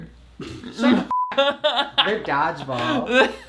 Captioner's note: laughs